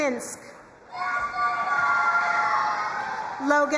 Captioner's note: crowd cheering and applauding